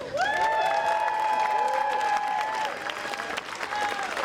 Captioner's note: audience applauding